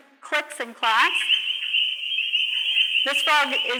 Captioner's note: frogs croaking